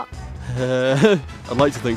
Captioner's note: chuckles